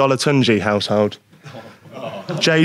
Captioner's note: Sidemen groan